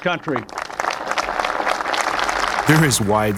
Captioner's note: crowd applauds